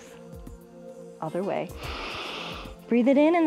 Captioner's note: inhales